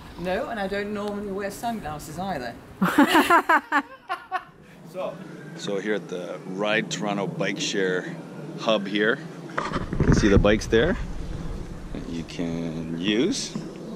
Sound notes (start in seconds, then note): 2.8 group laughing